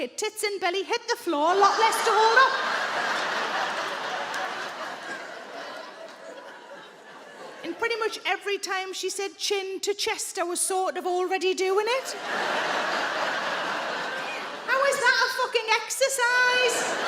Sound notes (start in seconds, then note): 1.4 audience laughing; 12.0 audience laughing